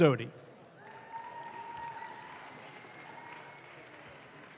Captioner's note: audience claps